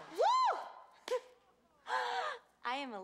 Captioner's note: shouts triumphantly